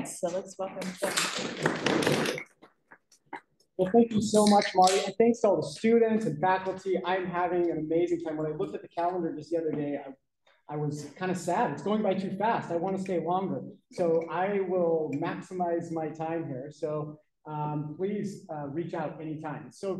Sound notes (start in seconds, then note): 1.1 applause